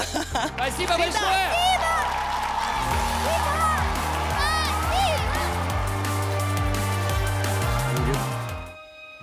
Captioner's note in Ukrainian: оплески